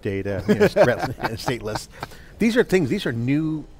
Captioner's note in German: lacht